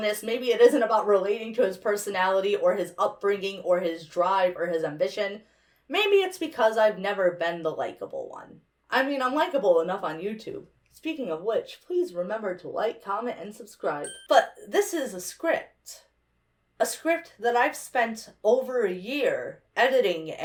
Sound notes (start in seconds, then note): 14.0 bell dings